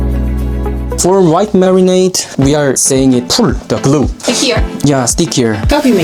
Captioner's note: in english